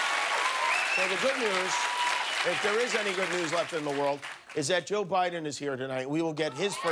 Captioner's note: cheers and applause